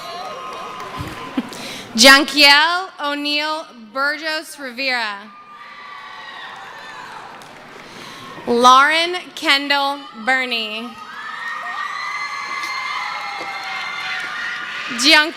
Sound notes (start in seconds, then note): 5.3 screaming; 13.1 cheering